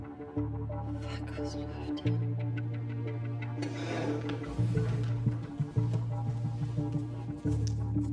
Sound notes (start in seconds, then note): 0.6 whispering